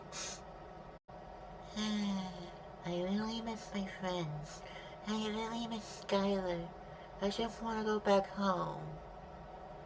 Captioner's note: sigh